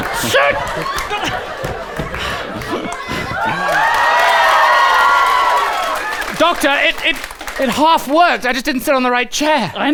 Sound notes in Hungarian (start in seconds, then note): 1.1 morgás; 2.2 gondterhelt sóhajtozás; 3.6 ujjongás és taps